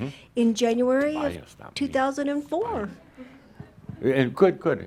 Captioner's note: whispering